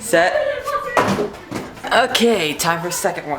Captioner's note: clattering